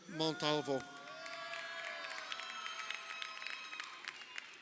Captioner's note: crowd cheering